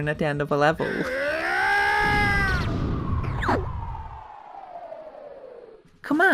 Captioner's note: explosion sound